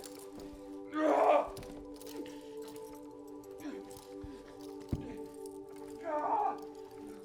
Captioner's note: solemn music; grunting